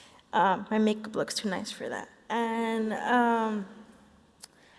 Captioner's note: none